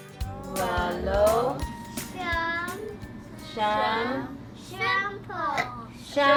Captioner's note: teacher and children reciting numbers in Tagalog